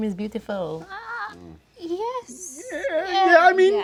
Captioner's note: unconvinced stammering